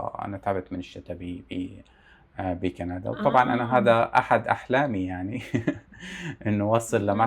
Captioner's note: laughs